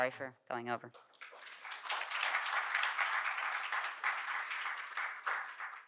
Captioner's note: audience applauding